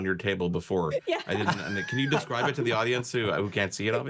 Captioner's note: laugh